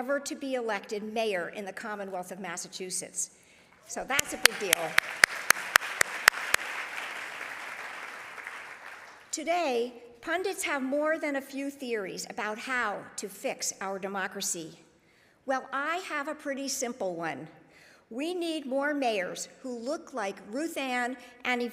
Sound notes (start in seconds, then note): 4.1 claps; 7.0 audience applauding